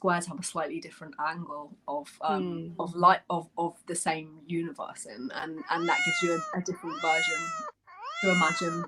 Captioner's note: miaow sound